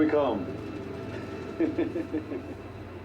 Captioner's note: chuckles